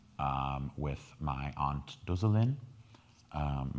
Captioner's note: speaking in foreign language